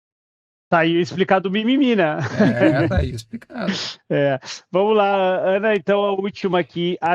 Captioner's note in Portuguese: risadas